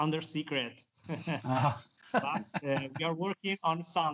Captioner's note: all laugh